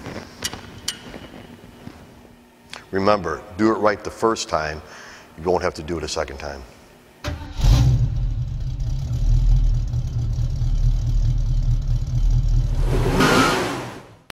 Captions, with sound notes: Remember, do it right the first time. You won't have to do it a second time. [Engine Revving] [Tires Squeeling]